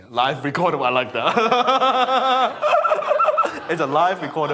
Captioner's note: audience laughing; laughs